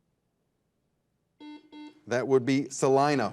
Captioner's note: buzzer dings